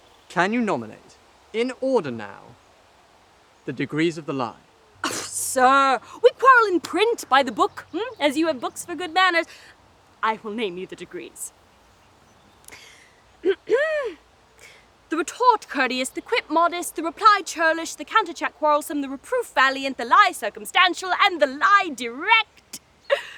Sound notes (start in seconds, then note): 13.3 clears throat